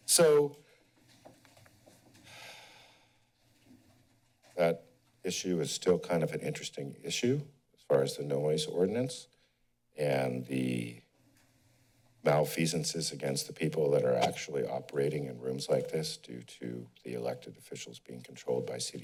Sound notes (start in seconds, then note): 2.2 exhales